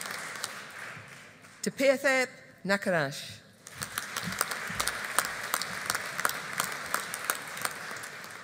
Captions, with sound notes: Tippayathep Nakarach. (AUDIENCE APPLAUDING)